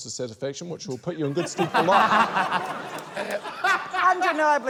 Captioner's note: laughter